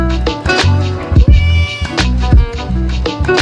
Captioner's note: meow